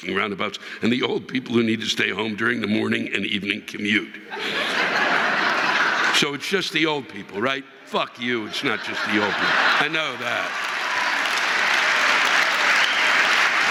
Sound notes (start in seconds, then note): 8.2 audience laughing